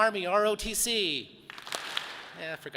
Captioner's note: audience claps